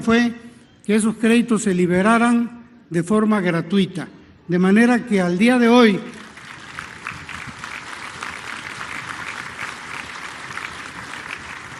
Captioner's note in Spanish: aplausos